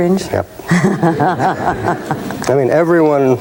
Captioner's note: laughing